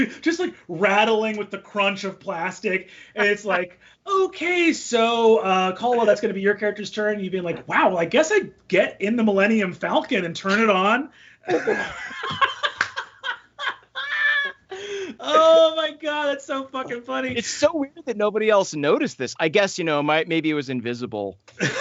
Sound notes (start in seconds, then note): 11.4 all laughing